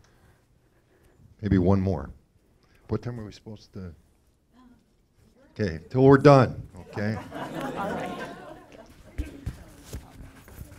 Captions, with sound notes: - Maybe one more. What time are we supposed to? Okay, until we're done. (audience laughing)